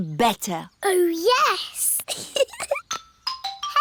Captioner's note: giggles